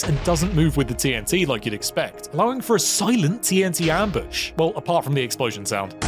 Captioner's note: explosion